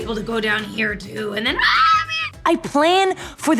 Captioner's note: screams